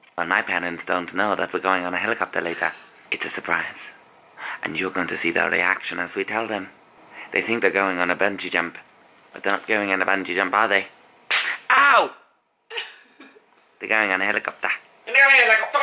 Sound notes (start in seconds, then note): 11.2 smack